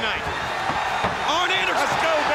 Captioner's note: crowd cheering